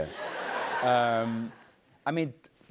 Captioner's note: laughter